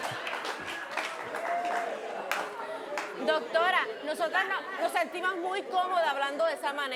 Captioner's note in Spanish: Risas